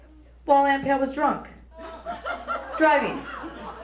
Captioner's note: laughter